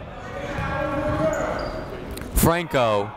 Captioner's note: people shouting in the crowd